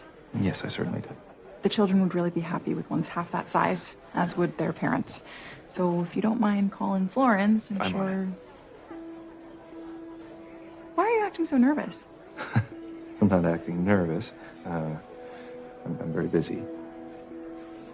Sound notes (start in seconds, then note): 12.3 nervous chuckle